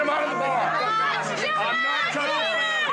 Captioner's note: shouting